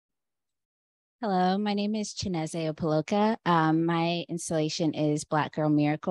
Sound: Chineze

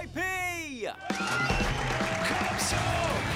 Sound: cheering

